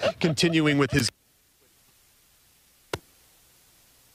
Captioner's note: laughter